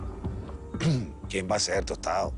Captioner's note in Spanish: Carraspea